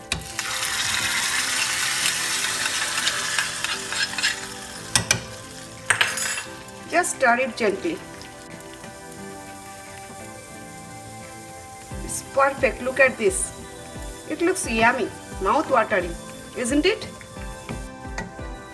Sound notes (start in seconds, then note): 0.5 pan sizzling; 8.8 pan sizzling